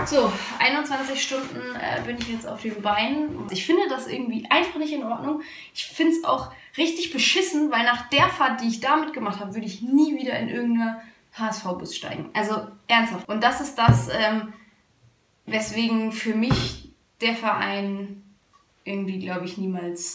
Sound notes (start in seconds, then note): none